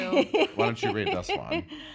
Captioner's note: laughing